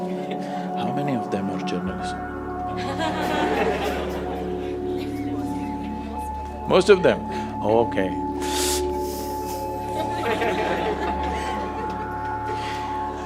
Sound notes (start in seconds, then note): 1.2 speaking aside; 2.7 laughter; 9.9 laughter/Laughter